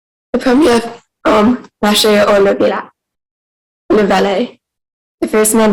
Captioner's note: speaking in French